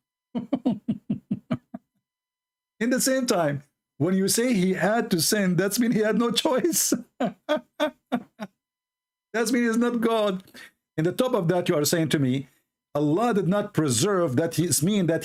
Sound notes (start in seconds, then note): 0.4 Ketawa; 6.9 Ketawa